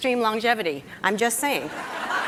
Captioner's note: laughter